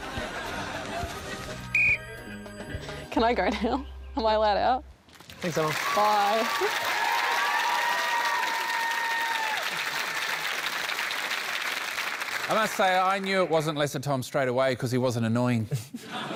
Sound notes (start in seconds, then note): 0.0 laughter; 1.7 blows whistle; 7.3 cheering, applause